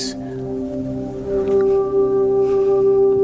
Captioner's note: gasps